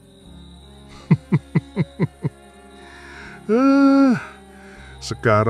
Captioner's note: laughs